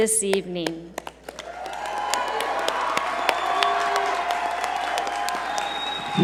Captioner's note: audience cheer and applaud